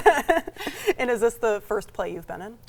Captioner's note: laughing